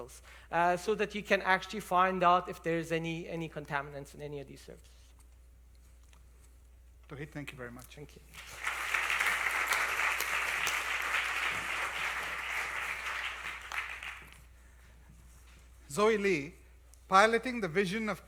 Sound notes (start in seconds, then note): 8.3 applause